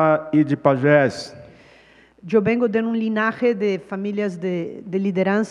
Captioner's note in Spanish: Ponente habla en portugués